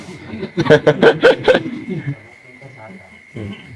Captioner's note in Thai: เสียงหัวเราะ